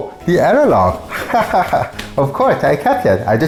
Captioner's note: laughing nervously